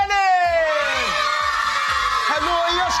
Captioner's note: cheering